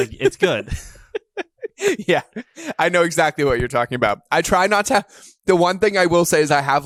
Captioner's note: laughs